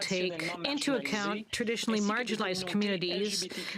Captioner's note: speaking French